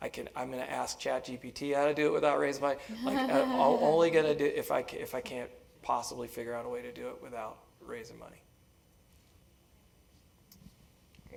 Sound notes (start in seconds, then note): 2.9 laugh